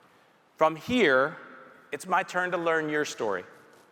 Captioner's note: none